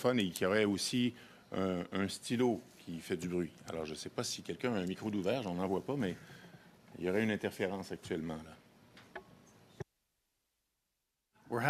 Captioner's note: speaking French